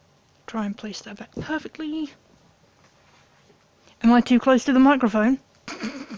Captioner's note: snort